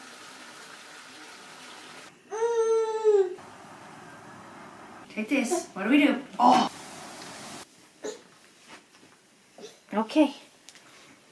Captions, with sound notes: (water splashes) (baby babbles) (cars drive by) - Like this, what do we do? Oh! (leaves rustle) (baby grunts) (fabric rustles) - Okay!